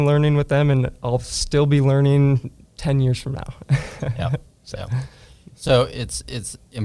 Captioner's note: laughs